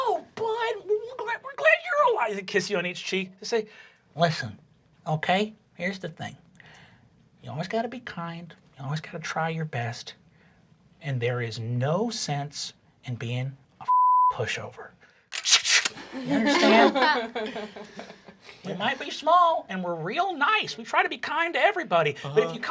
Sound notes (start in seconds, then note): 13.9 beep; 15.3 gun clicking; 17.6 everyone laughing